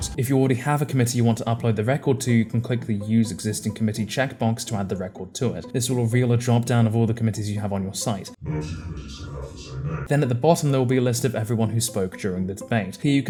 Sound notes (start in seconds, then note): 8.4 artifically deep voice